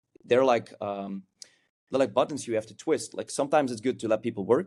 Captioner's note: lips smack